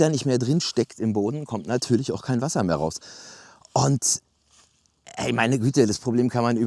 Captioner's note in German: räuspern